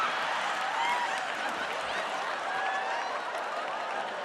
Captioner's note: audience laughing